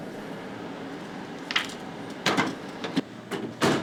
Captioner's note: copier whirring; copier door closing